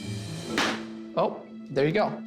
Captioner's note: snap